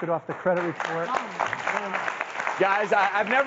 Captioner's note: clapping